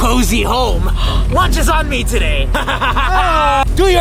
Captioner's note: laughing